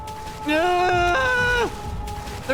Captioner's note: groans